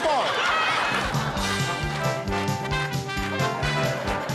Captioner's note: rhythmic clapping